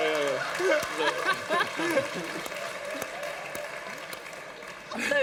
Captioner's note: laughter